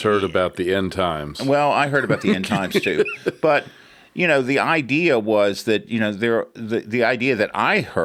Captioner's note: laughs